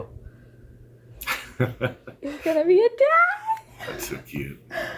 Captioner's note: laughs